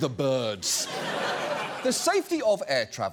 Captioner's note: studio audience laughs